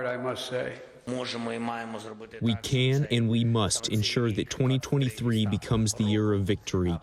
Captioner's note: through translator